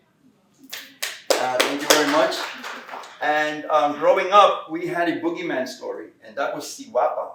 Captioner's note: clapping